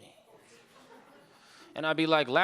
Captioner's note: audience laughing